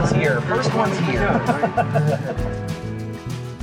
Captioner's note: laughing